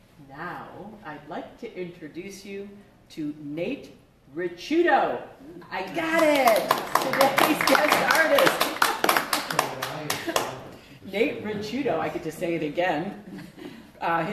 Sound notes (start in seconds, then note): 6.0 applause